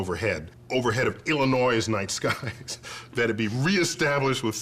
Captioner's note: chuckling